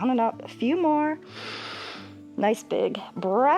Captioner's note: inhales